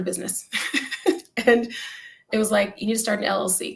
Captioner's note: laughter